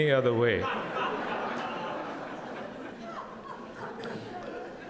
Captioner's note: audience laughs